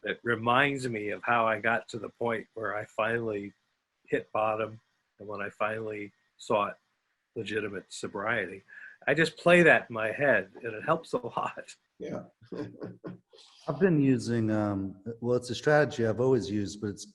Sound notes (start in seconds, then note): 12.6 laughs